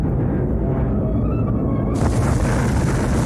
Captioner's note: grating squeal